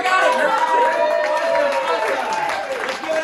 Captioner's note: cheering, applause